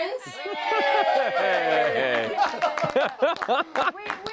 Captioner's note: cheering